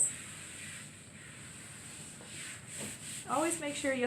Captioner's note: wiping sounds